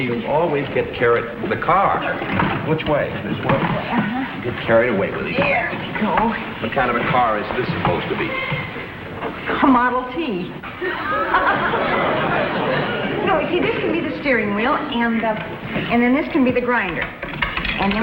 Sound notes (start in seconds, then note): 10.5 laughs; 10.6 audience laughs